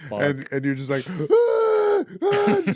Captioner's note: screaming